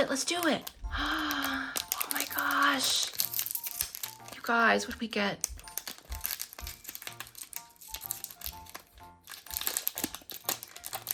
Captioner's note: gasps